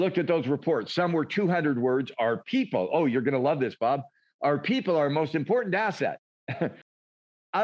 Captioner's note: chuckles